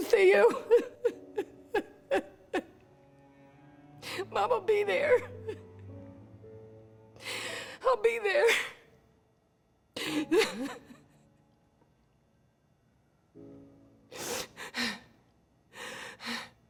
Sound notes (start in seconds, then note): 0.3 cries; 10.0 cries; 13.0 panting